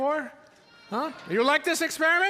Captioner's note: audience yelling